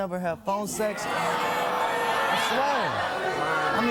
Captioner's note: audience booing